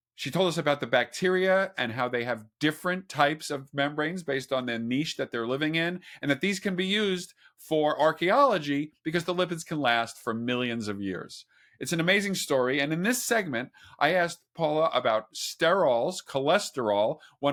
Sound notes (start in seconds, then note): none